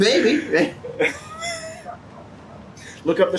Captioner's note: laughs